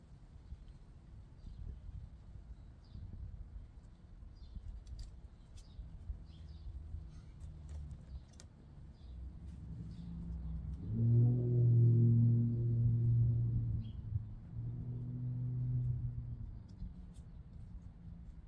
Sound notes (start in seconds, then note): 10.9 plane flying overhead